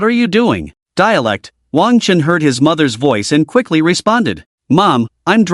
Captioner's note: dialect